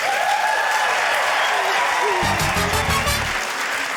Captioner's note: cheering, applause